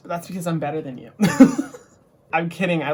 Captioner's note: laughs